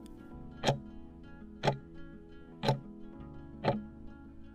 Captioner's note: timer ticking